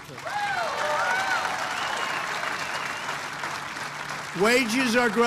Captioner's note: applause